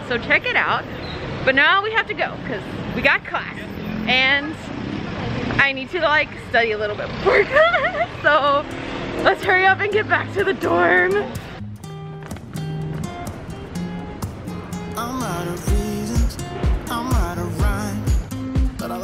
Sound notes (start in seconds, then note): 7.2 giggles; 11.4 upbeat music